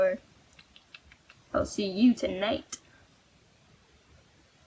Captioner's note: clicking sound